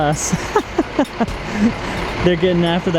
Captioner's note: laughs